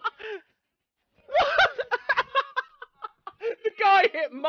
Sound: bursting into sudden laughter; continued laughing; still somewhat laughing

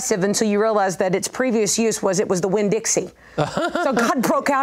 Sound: laughs

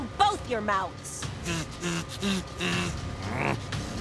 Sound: buzzing

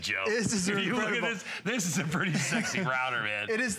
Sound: laughter

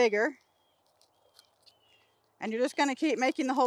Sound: scrapping sound

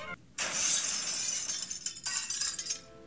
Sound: chair breaking

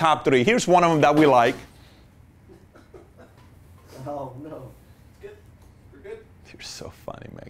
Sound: laughter - they're so funny

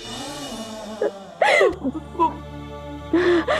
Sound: stammering

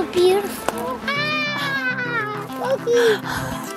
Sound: screams

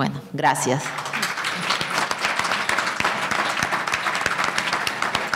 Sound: audience applauding

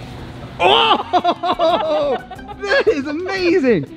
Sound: laughter

